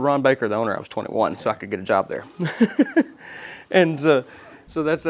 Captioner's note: laughs